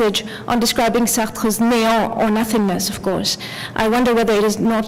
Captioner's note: french